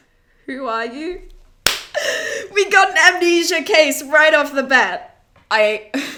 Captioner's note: claps, breathes in